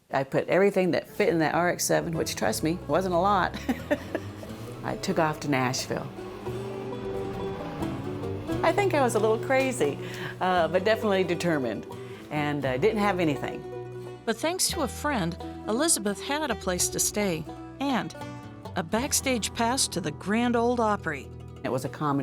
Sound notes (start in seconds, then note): 3.5 laughter; 6.7 car engine accelerating